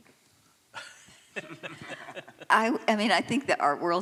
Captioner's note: laughter